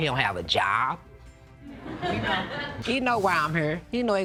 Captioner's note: audience tittering